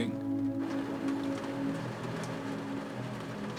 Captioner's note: rain pounding